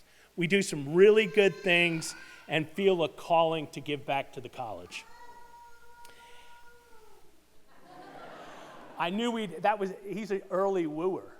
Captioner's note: child yell